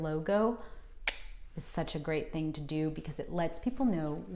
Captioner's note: clicks